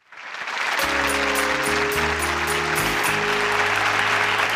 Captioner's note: audience applause